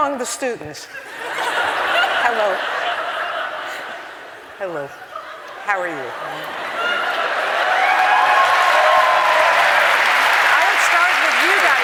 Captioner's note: applause